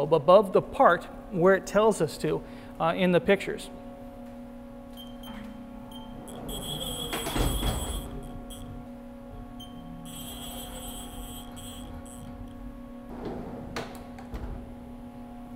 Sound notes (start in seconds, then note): 6.1 machines whirring